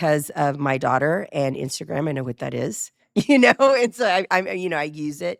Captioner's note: chuckles